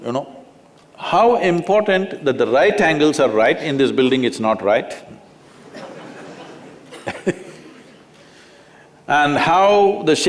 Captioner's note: laughter